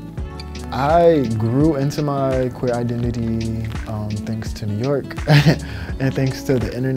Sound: giggles

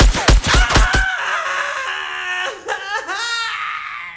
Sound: gun firing; man sobbing

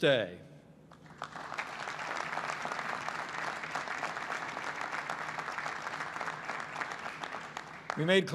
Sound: applause

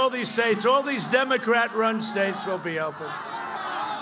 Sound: cheers

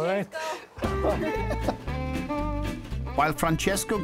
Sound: all laughing; jazzy violin music

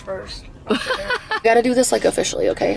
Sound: laughing

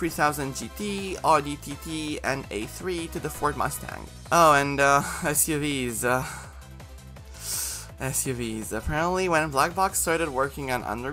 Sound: sigh

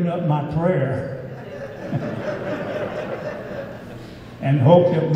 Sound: audience laughing

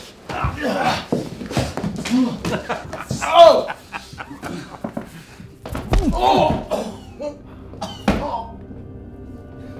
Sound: coughs; kicking sound; laughs

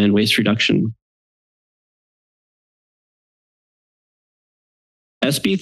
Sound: silence

